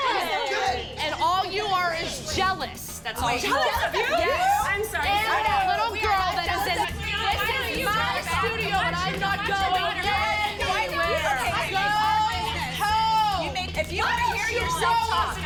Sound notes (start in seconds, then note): 6.0 loud, overlapping chatter